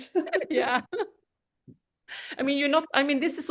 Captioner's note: laughs